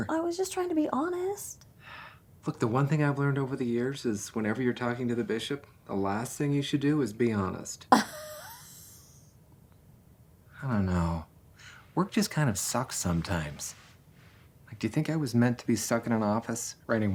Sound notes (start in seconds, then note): 7.9 laughs